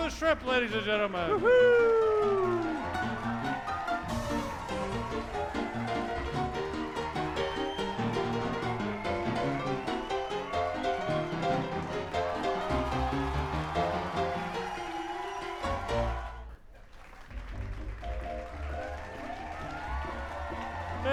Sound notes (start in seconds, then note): 7.4 audiences clapping hands and cheering; 17.5 upbeat piano music